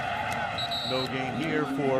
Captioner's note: whistle blows